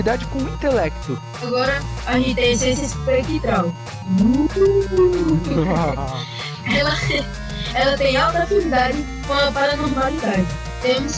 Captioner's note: boo